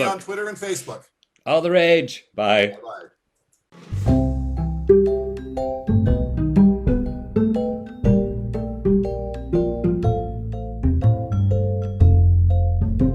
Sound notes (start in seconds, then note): 4.2 mmm